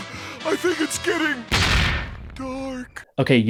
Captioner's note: ka-thunk